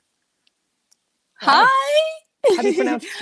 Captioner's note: chukles